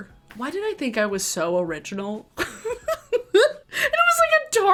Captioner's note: giggles